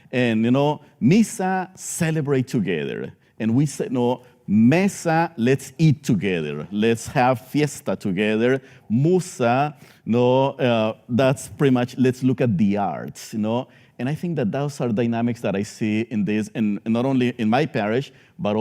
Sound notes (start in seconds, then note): 0.4 speaking spanish; 8.9 speaking spanish